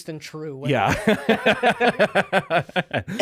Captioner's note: laughing